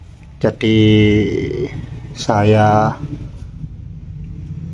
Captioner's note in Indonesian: Suara sepeda motor